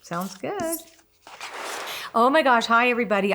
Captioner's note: frame whooshes